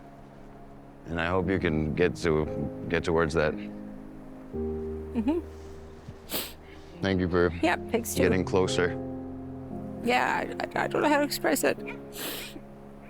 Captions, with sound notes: And I hope you can get to... get towards that. Mm-hmm. [sniffs] -Thank you for getting closer. -Yep. Thanks to you. Yeah, I don't know how to express it. [sniffles]